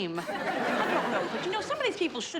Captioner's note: audience laughs